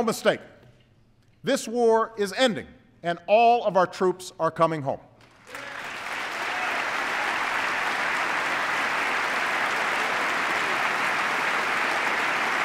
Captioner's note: applause